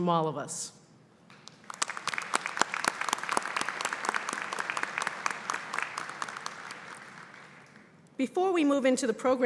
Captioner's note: applause